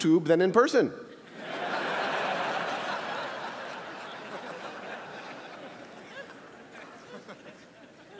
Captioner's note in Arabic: ضحك